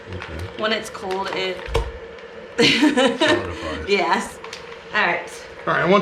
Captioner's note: chuckles